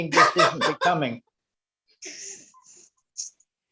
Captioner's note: laughs